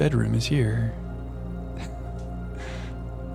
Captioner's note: chuckles